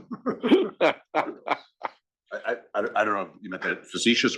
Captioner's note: laugh